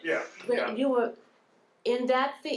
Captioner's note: chuckling